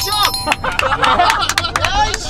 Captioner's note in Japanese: 拍手